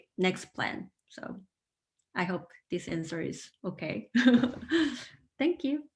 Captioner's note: laughing